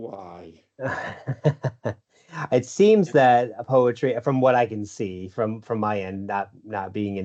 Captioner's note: laughs